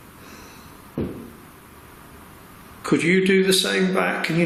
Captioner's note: thud